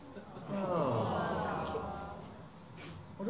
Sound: audiences awws

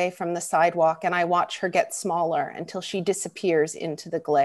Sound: none

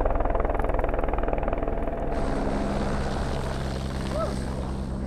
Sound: helicopter blades whirring

